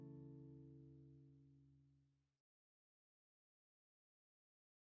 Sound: silence

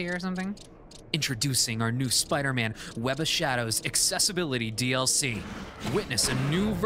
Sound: narrator voice

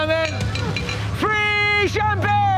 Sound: glass tapping

